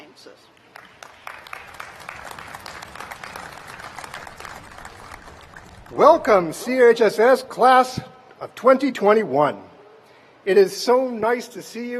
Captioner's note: applause